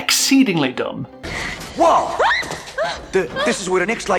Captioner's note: screams